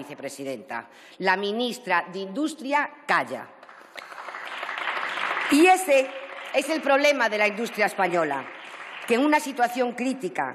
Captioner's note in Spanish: Aplausos